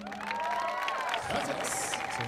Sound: audience applauding

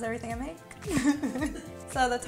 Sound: soft lounge music continues; laughs

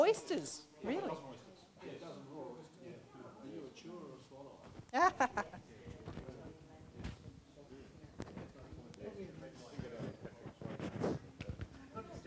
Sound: audience discussion

